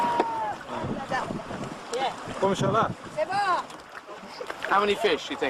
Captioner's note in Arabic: إدي التحدث بلغة أجنبية